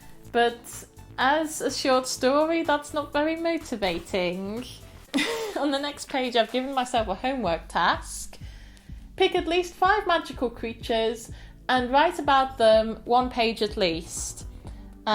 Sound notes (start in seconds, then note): 5.1 laughter